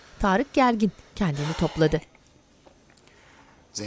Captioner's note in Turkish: Nefes sesi